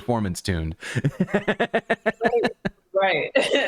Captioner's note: laughter